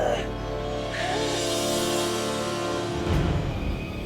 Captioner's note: groans